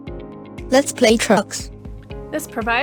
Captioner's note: device speaks